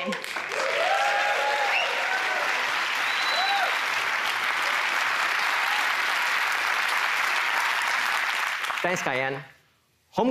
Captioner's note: applause